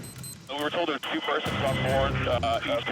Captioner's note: keyboard rattles; man On Radio